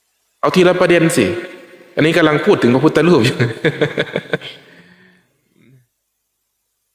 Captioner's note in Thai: เสียงหัวเราะ